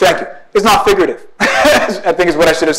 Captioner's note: laughs